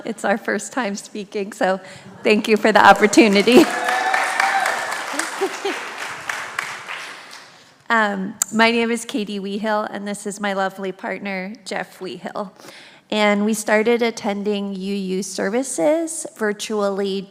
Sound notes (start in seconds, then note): 2.8 congregation applauds; 5.1 laughs